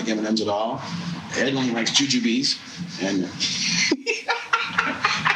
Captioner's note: laughing